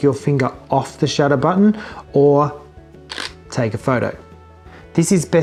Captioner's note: shutter click